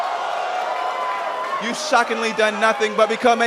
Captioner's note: crowd response